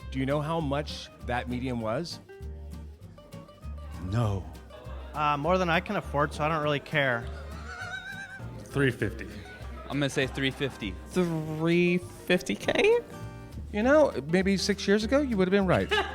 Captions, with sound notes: Do you know how much that median was? - No. - More than I can afford. So I don't really care. (laughing) - 350. - I'm gonna say 350. - 350K? - You know, maybe six years ago, you would have been right.